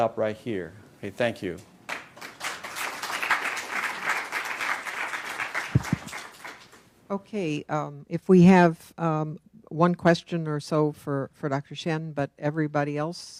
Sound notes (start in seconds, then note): 1.8 applause